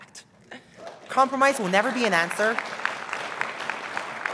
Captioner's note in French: applause